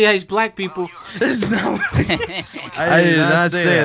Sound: laughs

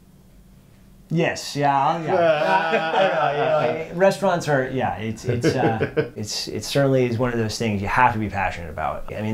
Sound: laughs

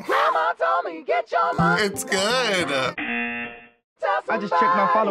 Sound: buzzer

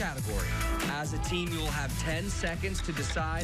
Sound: cheers and applause

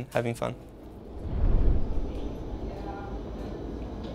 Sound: train whooshing

